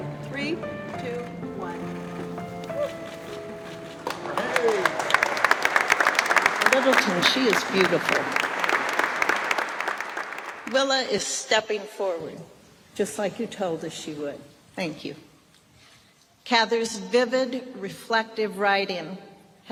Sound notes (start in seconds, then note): 0.0 whimsical music continues; 3.6 all applaud; 8.9 applause